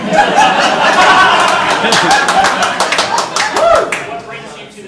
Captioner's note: audience laughing